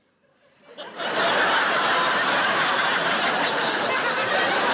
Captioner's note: crowd laughing